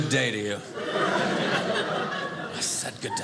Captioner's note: audience laughing